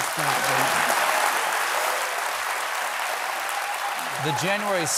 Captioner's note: applause